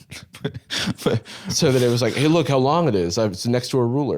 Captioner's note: laughing